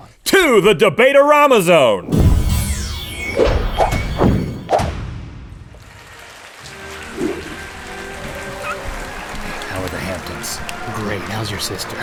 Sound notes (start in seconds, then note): 2.1 whooshing sound effects; 5.6 applause